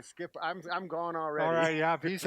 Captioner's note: laughs